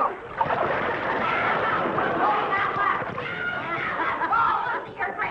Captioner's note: audience laughing